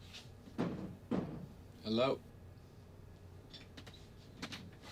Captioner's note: faint knock